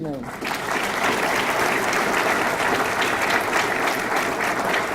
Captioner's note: audience clapping